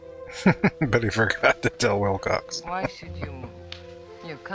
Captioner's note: laughing